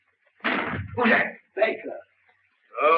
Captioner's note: door slams